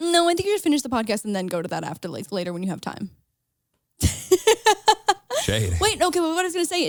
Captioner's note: laughs